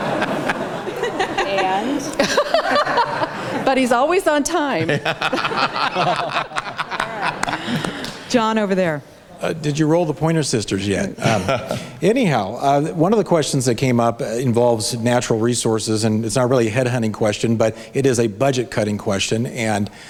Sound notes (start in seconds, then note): 4.6 candidates, audience laugh; 11.2 laughs